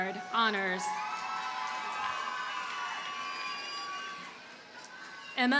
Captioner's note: audience cheers and applauds